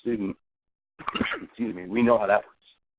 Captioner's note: coughing